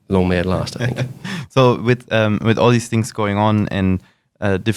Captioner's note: laughs